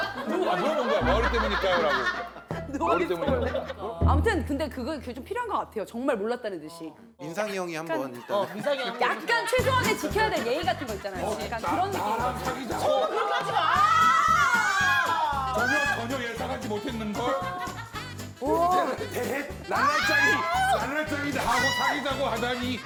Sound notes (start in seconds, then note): 2.6 timid